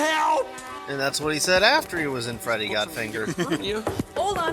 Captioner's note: chuckles